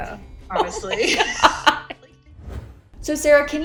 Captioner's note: laughing